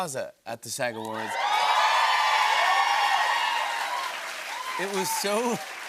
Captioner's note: cheering and applause